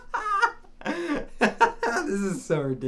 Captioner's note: laughing